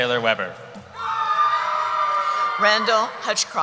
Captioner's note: cheering